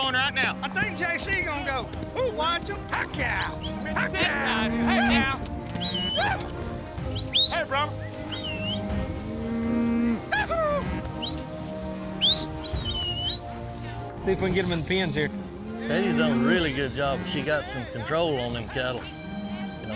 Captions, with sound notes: I THINK JC GONNA GO. OOH, WATCH 'EM. HECK YEAH. [WHISTLING] SEE IF WE CAN GET 'EM IN THE PENS HERE. KATEY'S DONE A REALLY GOOD JOB. SHE GOT SOME CONTROL ON THEM CATTLE.